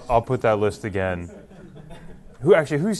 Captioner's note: laughter